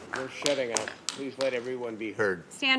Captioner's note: applause